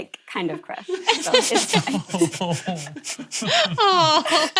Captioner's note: laughing